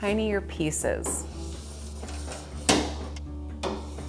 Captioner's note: knife scraping